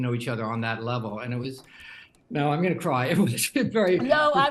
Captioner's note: voice breaking